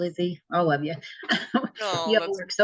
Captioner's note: laughs